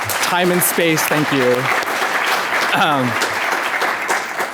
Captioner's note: applause